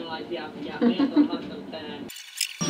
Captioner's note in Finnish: vielä tyytyväistä naurua